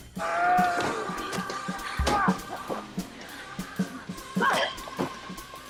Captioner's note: groaning